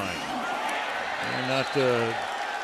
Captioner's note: cheering